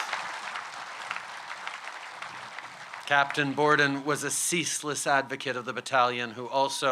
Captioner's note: applause